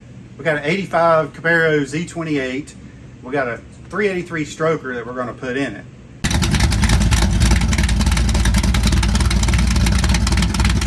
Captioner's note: loud Exhaust